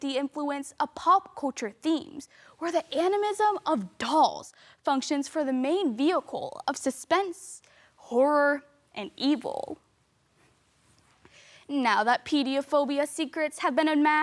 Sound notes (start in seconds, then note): 10.3 rustling; 11.2 sharp inhale